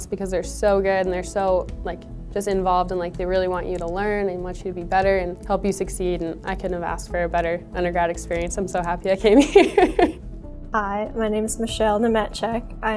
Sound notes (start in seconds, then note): 9.4 laughs